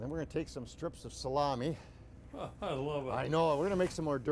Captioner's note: laughing